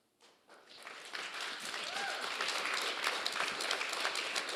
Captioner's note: audience applauding